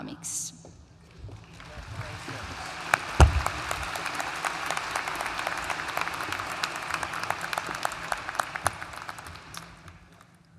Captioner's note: applause